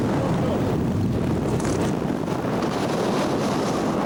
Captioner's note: waves roaring